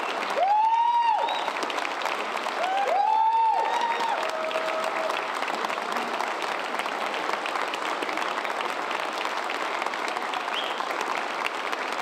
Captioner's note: cheers and applause